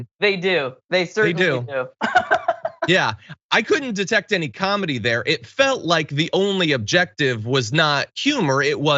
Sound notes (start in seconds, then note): 2.0 laugh